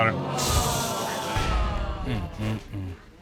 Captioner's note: audience groans